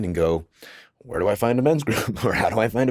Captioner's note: chuckles